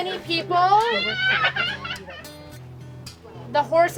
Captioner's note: children shouting